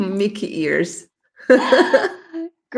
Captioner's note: laughs